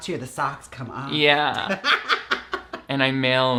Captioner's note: laughs